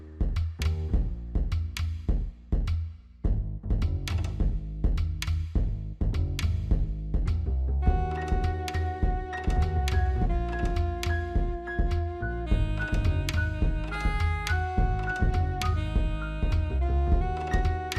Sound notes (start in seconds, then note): none